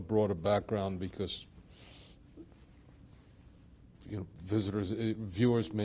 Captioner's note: pauses for 3 seconds